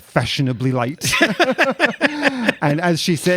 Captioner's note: laughs